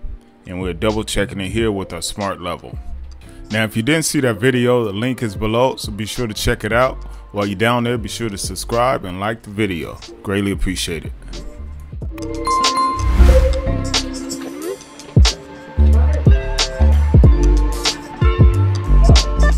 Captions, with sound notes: and we're double checking it here with a smart level. Now if you didn't see that video the link is below so be sure to check it out. While you're down there be sure to subscribe and like the video. Greatly appreciate it. (bell chiming) (chillhop music playing)